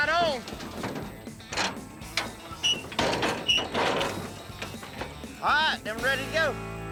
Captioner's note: doors clanking shut